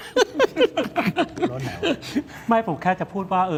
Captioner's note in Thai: เสียงหัวเราะ